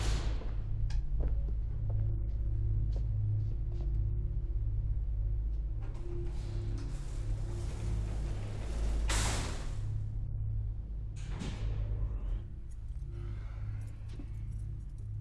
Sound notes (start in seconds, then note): 0.0 elevator door rattles; 4.8 gentle foreboding music; 9.2 elevator door rattles